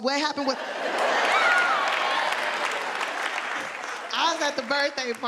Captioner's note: audience laughing